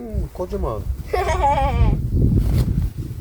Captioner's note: laughter